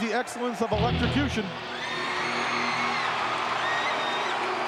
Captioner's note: audience cheering